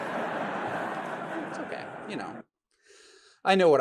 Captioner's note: audience laughs